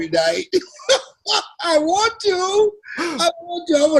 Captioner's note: Les laughs